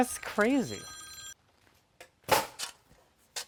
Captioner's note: phone ringing; nail gun shooting